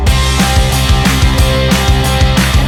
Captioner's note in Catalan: Aplaudiments